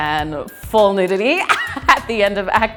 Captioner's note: laughs